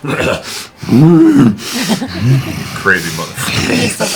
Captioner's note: insane growling